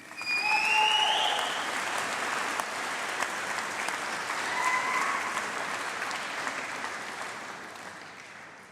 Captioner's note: applause